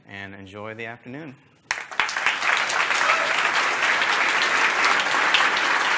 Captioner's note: applause